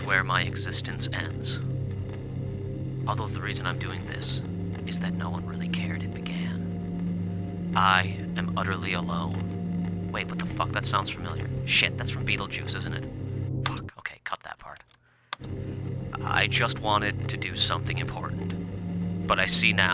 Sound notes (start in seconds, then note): 13.6 static clicks off; 15.3 static clicks on